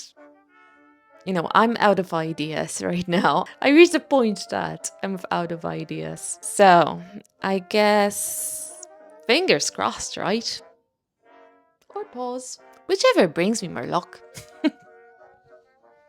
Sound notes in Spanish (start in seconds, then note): 14.3 risas